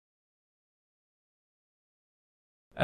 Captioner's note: pause